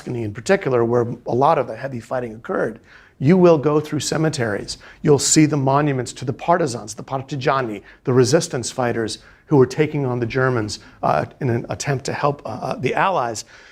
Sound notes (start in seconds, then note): 6.9 speaking in foreign language